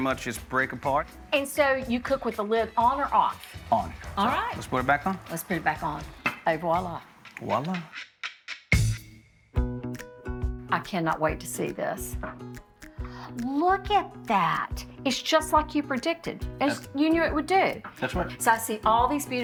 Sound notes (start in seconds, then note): 8.7 festive music; 10.8 bright music; 12.9 gasps